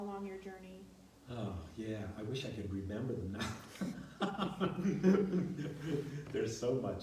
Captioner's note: laughs